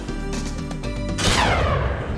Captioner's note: bang